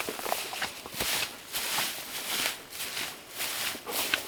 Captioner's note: squishing